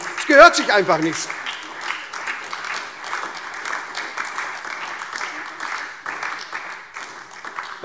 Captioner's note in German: Beifall SPD, Freie Demokraten und DIE LINKE